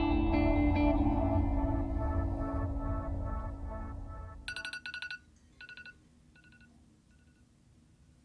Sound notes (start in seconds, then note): 4.4 alarm ringing